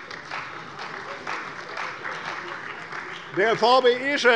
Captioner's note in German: Beifall bei der CDU und dem BÜNDNIS 90/DIE GRÜNEN